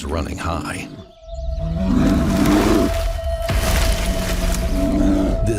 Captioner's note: bear growls angrily